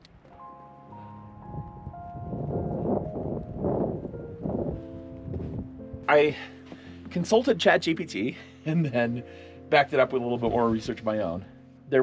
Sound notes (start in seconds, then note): 0.0 wind rustling; 0.6 gentle music